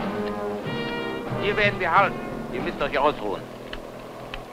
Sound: German spoken audio

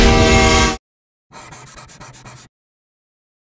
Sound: train honk, and crashing sound; scraping sound of lottery ticket

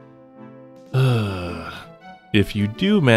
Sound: sigh

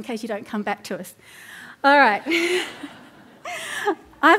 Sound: laughter

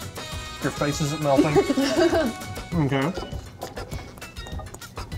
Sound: laughter

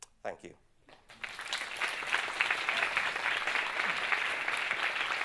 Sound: audience claps

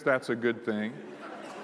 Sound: laughter

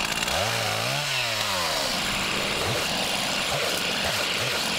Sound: chainsaw whirring

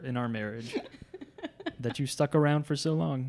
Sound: laughs

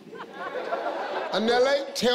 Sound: laughing

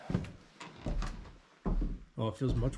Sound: door creaks

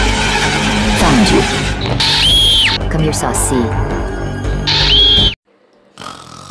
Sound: scream; snoring

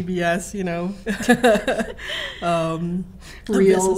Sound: laughing

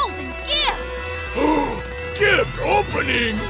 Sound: gasping

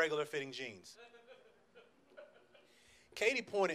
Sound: man laughs

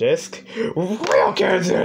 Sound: in toy bonnie's voice; in trenton darden's voice

